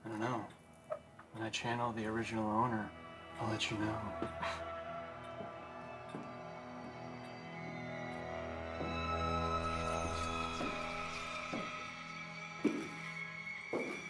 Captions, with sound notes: - I don't know? When I channel the original owner I'll let you know. (foreboding string music) (shoes tapping)